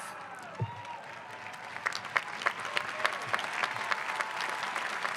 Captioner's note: clapping and cheering